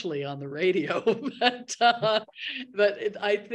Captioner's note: laughs